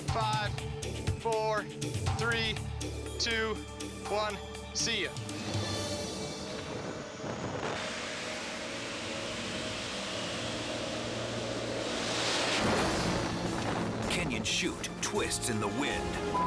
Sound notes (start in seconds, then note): 7.9 suspenseful music; 12.0 parachute opens